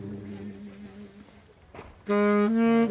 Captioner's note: silence; new, quiet melody builds on sax